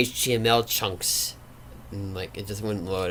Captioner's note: none